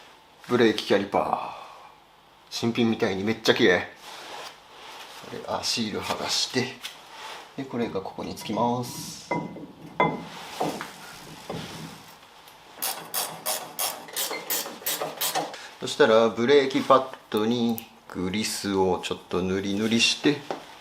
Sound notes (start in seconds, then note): 9.4 working sound